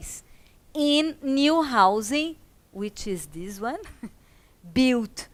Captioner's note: laughs